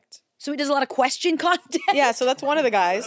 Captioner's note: laughs